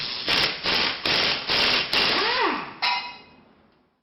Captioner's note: tool drilling